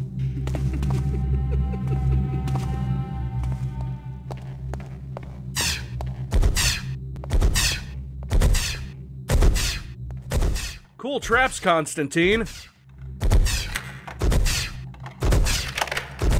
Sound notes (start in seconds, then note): 0.3 creepy chuckle; 5.6 magic shooting sounds; 13.1 lockpicking and magic shooting sounds